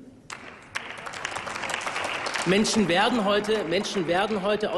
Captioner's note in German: Applaus